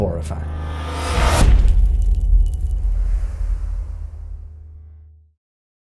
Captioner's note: impact